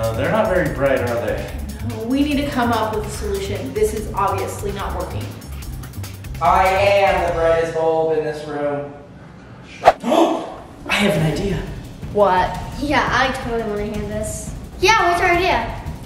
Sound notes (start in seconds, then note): 9.8 woosh; 10.6 gasp